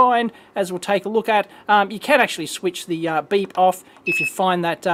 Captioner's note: beeps; beep